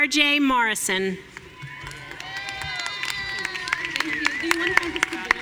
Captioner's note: audience cheering